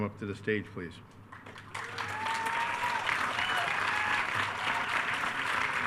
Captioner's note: attendees cheering